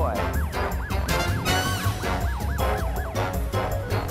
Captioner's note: police siren